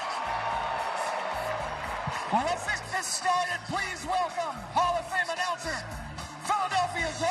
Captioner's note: chring